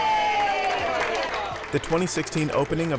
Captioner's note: applause